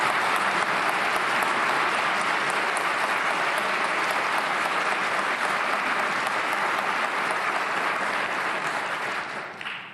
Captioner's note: applause